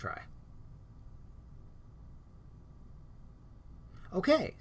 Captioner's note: no sound